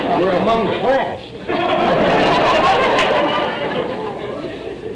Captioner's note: audience laughter